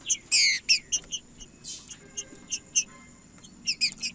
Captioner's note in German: trinca ferro cantando